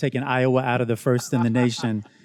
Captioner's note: student laughs